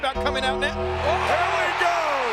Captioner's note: bell tolls; crowd cheers